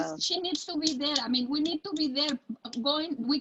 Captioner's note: slapping hands